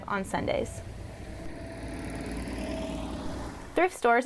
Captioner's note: bus engine roaring